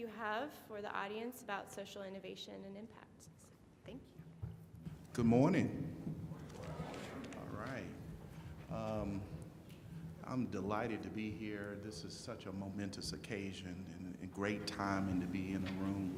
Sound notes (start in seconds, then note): 7.0 crowd responds